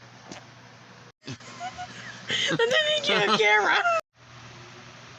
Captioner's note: Penelope Giggling And Talking